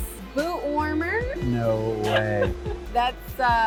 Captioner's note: laughs